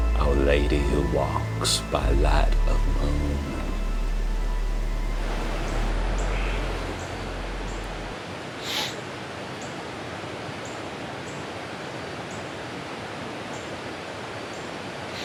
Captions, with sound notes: our lady who walks by light of moon. (birds chirping) (Tex sniffles)